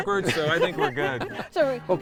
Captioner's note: laughing